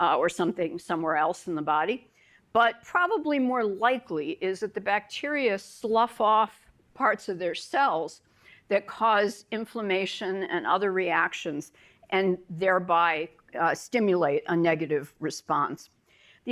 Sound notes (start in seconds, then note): none